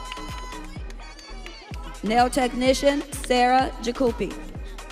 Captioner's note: audience cheering